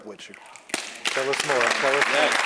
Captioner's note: applause